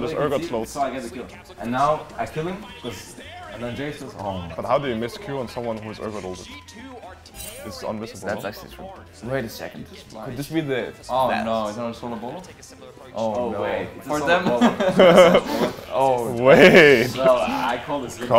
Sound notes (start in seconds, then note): 14.1 team laughs; 14.3 laughing